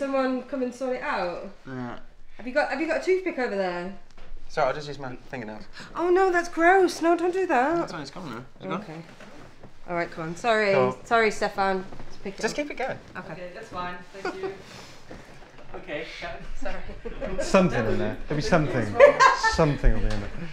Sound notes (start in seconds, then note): 16.6 laughter; 18.9 laughs